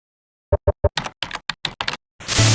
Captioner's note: typing sounds